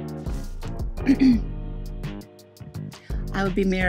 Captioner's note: clears throat